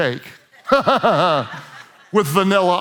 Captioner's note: congregation laughs